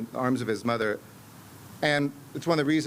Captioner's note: remarks in spanish